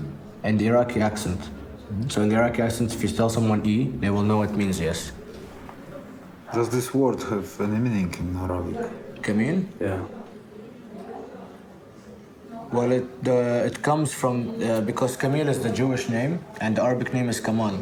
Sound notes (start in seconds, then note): none